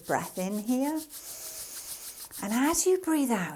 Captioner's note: breathing in